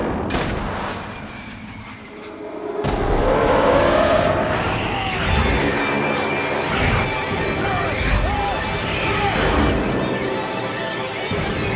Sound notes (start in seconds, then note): 0.0 shot firing; 2.7 dramatic music; 3.8 Sinclair yells; 4.2 The Matriarch shrieking